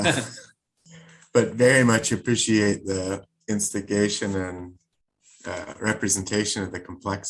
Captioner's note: laugh